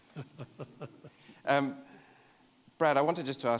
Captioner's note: laughing